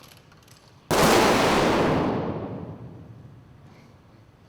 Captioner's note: gunfire